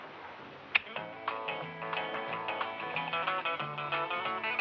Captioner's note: TV switches on; country music playing